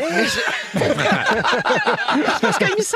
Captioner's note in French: rires